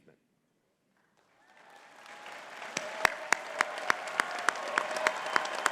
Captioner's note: audience cheering and clapping